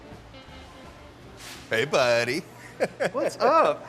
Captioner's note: laughing